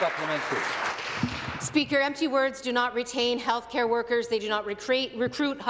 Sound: applause

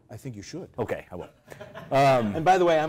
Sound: laugh

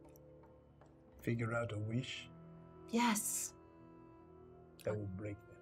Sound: none

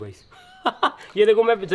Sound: laughing

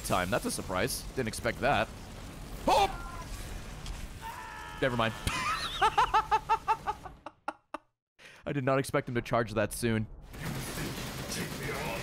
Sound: laughs

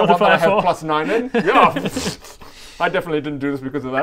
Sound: pffffsh

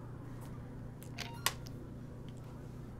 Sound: gentle beeping

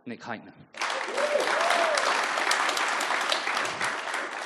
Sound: audience applauds

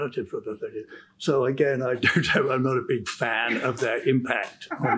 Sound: chuckles

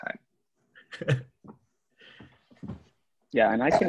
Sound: laughs

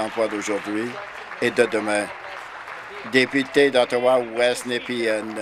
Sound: applause

